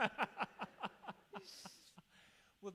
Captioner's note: laughs